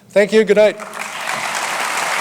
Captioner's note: audience applause